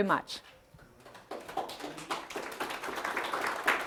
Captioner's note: applause